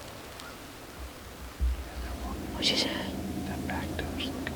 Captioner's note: whispering